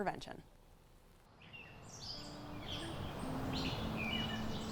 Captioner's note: birds singing